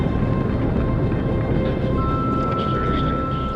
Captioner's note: equipment beeping